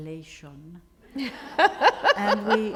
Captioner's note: laughter